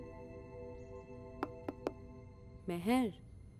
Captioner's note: Knocks